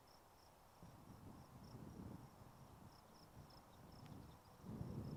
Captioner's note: wind blowing